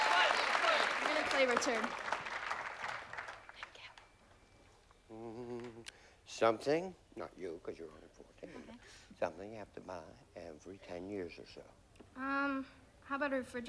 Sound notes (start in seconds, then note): 5.1 hums